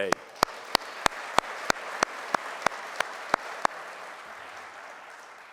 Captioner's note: and audience applauding